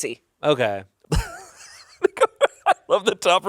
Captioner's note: laughs